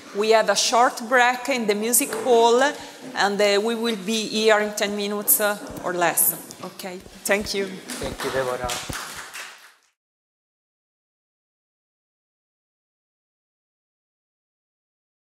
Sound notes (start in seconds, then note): 7.8 crowd applauding